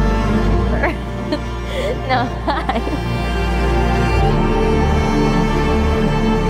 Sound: laughs nervously

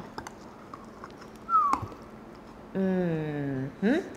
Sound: whistles

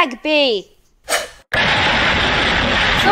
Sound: crash

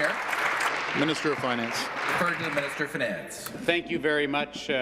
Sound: applause

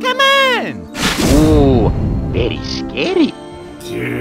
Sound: whaboom

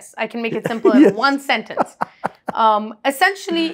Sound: laughs

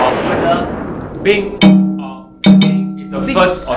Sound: ping

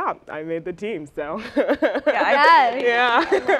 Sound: laughs

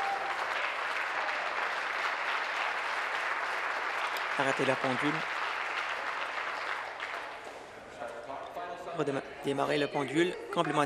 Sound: applause

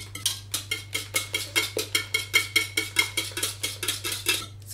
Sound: egg beating sounds

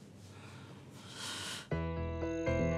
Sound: sighs; tense music

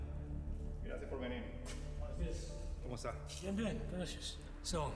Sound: speaking foreign language

